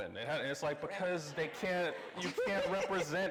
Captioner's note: everyone laughing